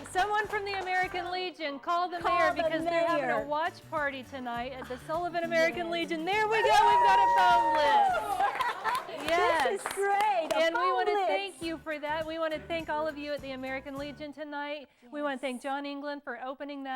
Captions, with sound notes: the mayor because they're having a watch party tonight at the Sullivan. There we go, we have a phone [ Cheers and applause ] >> This is great. We want to thank you for that. We want to thank all of you at the American legion and thank John England for opening